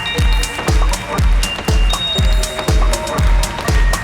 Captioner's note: applause